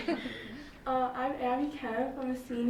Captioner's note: laughs